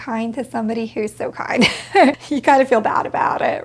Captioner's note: laughs